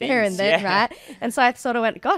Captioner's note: laughing